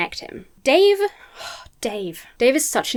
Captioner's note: sighs